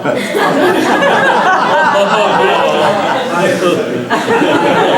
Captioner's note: laughter